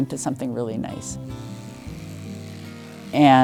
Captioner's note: shearer buzzing